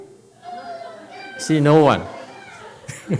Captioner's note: laughs